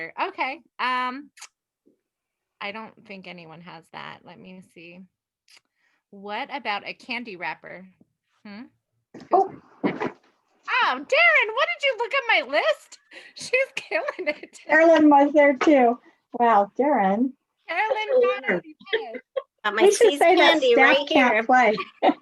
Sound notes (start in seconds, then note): 13.6 laughs; 19.6 overlapping chatter